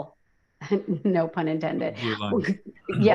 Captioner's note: chuckles